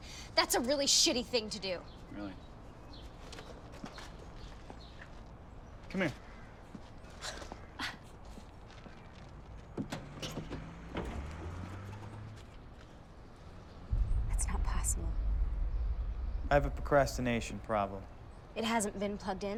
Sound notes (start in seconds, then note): 7.2 Mattie scoffs